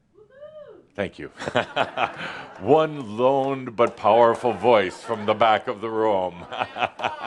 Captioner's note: laughter; chuckles